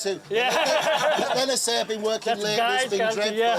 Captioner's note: laughter